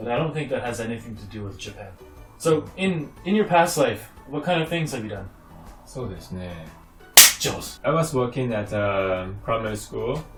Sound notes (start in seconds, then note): 7.2 clap